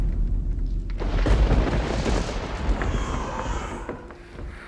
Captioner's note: door bangs shut; thunder & Lightning; distorted babies cry